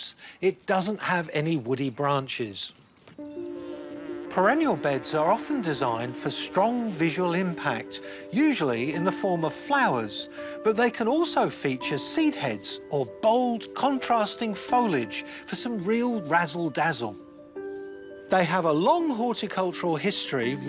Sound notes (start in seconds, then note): 3.1 delicate music; 3.2 bee buzzes